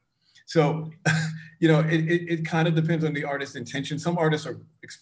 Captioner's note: chuckles